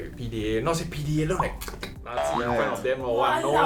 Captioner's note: slurping sound